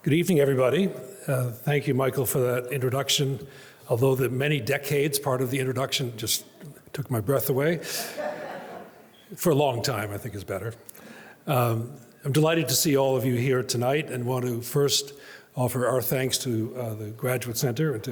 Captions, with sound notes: - Good evening, everybody. Thank you, Michael, for that introduction. Although the many decades part of the introduction just took my breath away. (audience chuckles) "For a long time," I think, is better. I'm delighted to see all of you here tonight and want to first offer our thanks to the Graduate Center